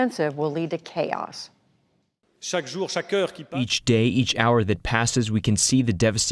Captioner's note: through translator